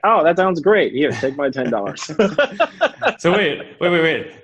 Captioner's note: laughs